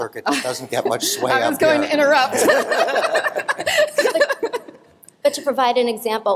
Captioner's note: laughter